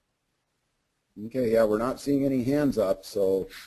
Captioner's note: voiceover